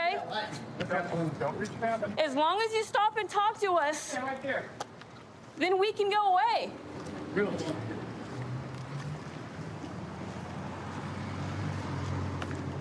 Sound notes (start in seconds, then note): 10.2 vehicles driving